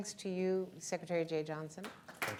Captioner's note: applause